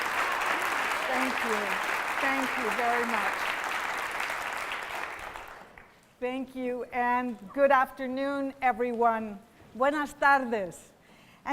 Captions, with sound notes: [applause] Thank you. Thank you very much. Thank you and good afternoon every one.